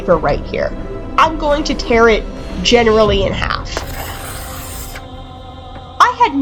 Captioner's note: ripping